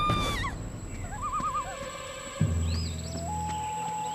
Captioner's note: birds chirping